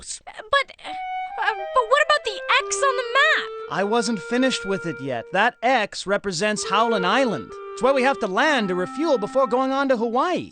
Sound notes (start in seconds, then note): none